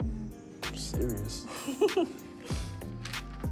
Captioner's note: giggles